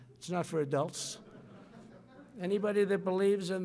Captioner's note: laughter